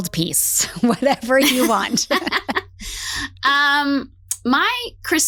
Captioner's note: laugh